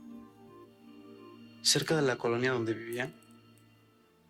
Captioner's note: speaking spanish